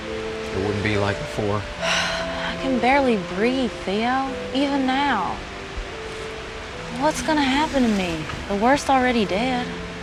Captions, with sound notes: - It wouldn't be like before. (Cammy sighs) - I can barely breathe, Theo, even now. What's gonna happen to me? The worst already did.